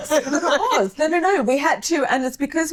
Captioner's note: laughing